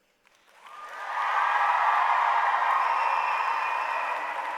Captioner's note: applause